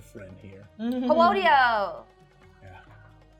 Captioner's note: laughing